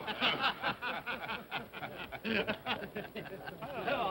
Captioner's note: men chuckle